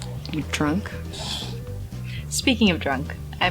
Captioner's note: Naira laughs